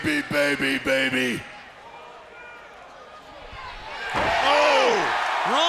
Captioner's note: crowd cheering